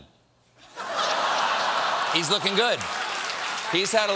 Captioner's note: laughter